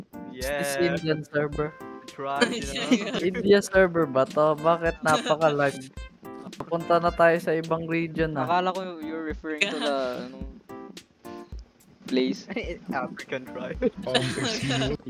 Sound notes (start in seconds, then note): 2.4 laughter; 5.0 giggles